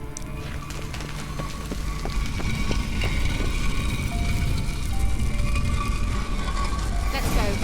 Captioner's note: sound of scraping stone